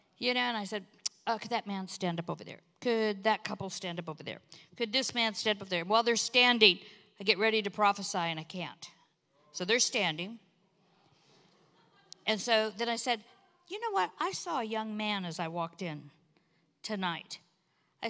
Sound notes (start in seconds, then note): none